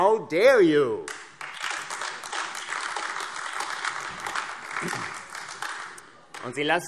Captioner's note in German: Beifall AfD